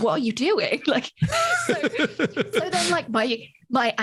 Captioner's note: both laughs